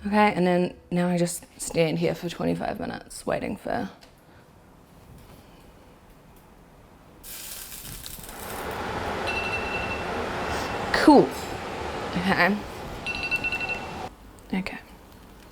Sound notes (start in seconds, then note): 7.2 oil sizzling; 9.2 phone alarm ringing; 13.0 phone alarm ringing